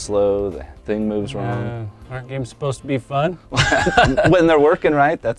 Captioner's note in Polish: Śmiech